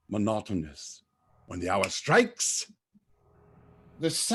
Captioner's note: snaps finger